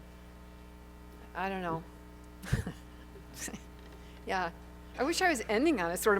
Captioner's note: chuckles